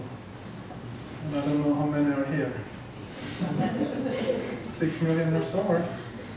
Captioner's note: laughter